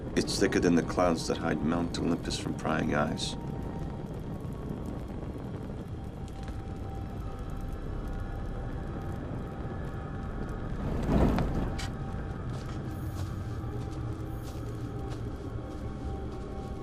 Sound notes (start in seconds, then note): 6.6 eerie music; 6.6 twig cracking; 11.3 fire whooshing